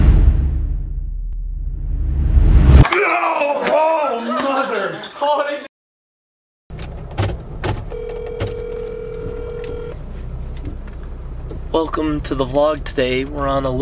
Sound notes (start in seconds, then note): 1.7 drum roll; 7.9 phone rings